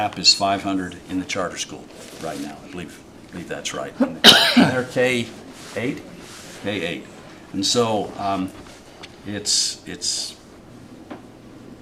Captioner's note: cough